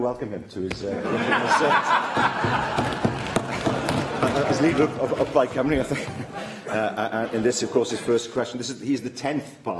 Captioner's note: laughter